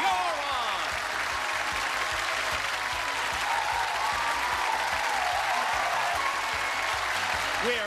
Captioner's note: cheers and applause